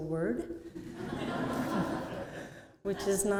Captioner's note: laughter